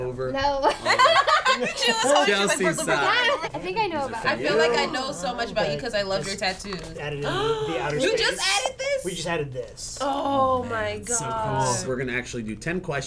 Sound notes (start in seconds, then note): 0.7 laughing; 7.5 gasping